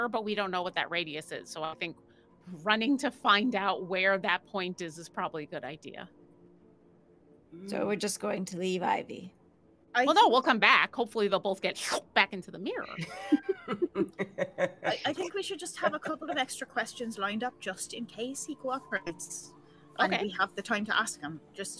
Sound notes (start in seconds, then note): 12.9 group laughing